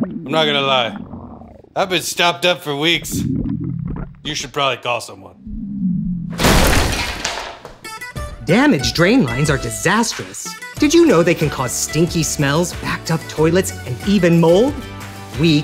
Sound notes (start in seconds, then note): 6.3 table smashing; 7.8 upbeat music